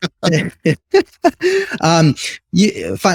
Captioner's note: laughs